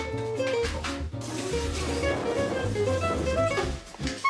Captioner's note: ladder moving